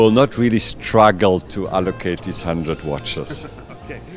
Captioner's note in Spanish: Risas